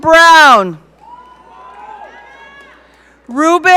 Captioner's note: audience cheering